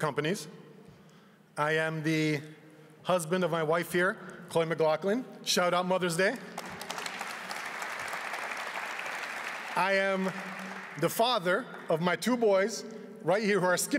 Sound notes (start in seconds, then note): 10.8 applause